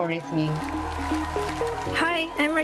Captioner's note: cheers,applause